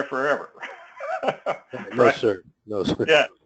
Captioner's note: laugh